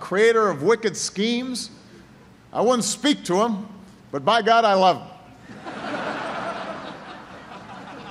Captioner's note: laughter